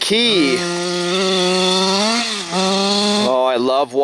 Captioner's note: engine roaring